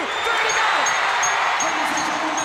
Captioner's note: audience cheers; bell rings